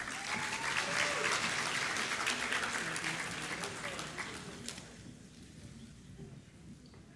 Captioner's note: applause